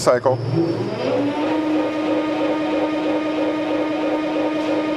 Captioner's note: machine whirring